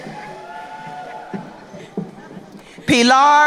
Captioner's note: crowd cheering